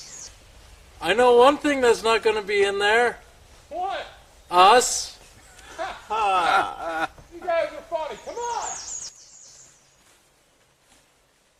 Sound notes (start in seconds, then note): 5.4 laughter